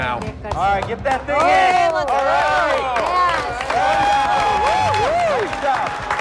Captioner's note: cheers and applause